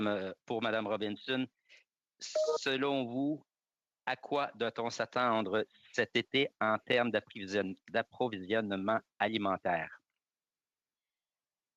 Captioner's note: speaking in French